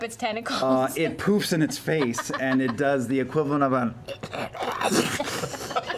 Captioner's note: sneezing